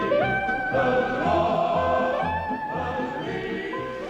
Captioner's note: water rushing